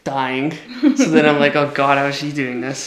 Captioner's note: giggles